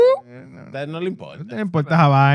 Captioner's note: non-english Speech